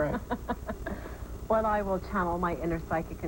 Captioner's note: laughter